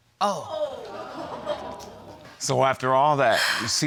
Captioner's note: audience exclaiming